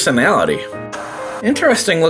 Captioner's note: TV static